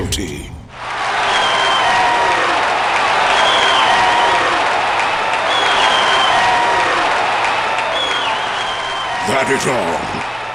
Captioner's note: cheering!